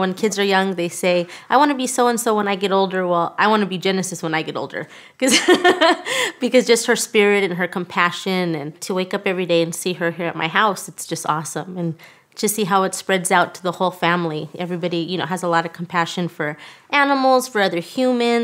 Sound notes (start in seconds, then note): 5.3 laughs